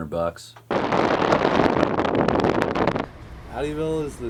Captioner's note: wind crackling